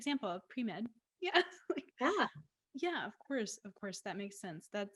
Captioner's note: laughs